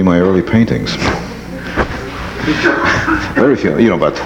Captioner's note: audience laughs